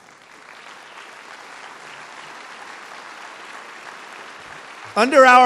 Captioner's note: applause